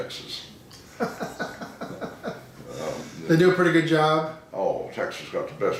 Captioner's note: laughing